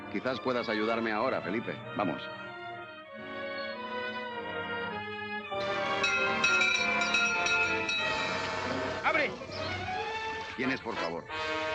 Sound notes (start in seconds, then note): 3.2 worrying music; 5.6 door bell ringing